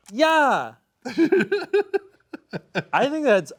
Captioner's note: laughing